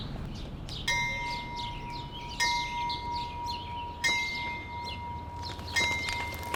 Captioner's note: bell tolls; fire sounds